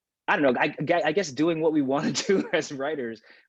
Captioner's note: laughs